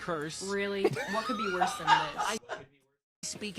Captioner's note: both laugh